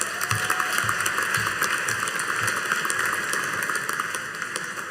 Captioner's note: audience applauding